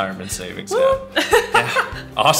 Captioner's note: laughing